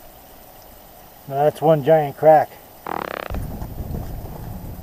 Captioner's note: fart noise